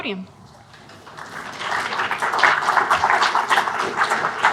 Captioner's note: audience applauds